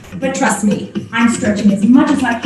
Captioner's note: speaking muffled by body position